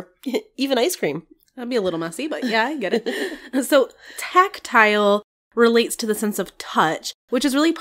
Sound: laugh

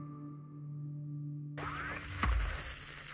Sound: whirring

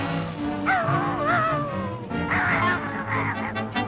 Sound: dog howls

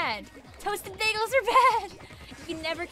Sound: laughs

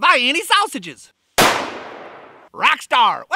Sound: gun fires

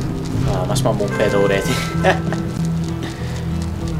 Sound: laughs

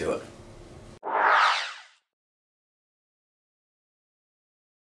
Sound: swooshing sounds

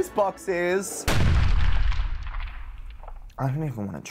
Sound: loud crack

